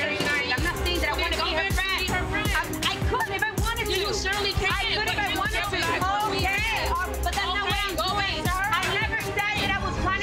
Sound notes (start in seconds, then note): 4.5 both shouting and chattering